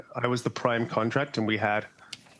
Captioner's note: speaking French